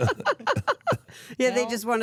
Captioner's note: laughs